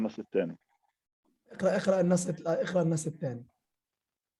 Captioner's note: speaking arabic